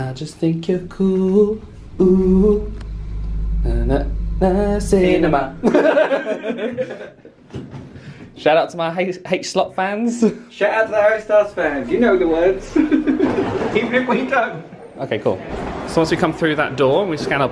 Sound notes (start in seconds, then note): 5.6 both laugh